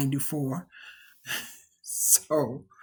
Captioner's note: chuckles